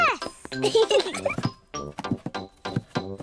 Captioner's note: both giggle